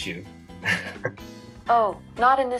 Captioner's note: laughs